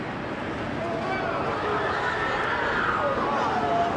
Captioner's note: men and women exclaiming and screaming